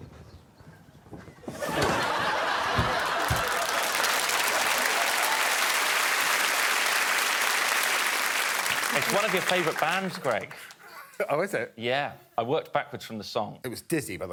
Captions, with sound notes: [laughing continues] [cheering and applause] It's one of your favourite bands, Greg. -Oh, is it? -Yeah. I worked backwards from the song.